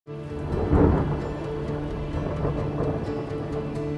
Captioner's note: thundering